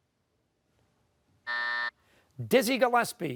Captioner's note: buzzer